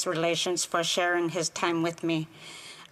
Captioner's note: speaking Indigenous Language